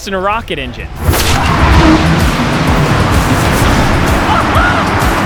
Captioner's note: rocket launch